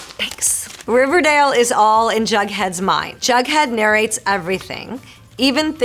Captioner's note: Marisol reading fan letter aloud